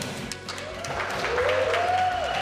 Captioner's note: applause